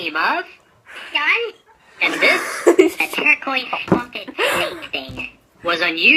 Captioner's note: laughter